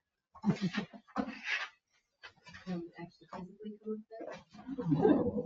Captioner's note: members chattering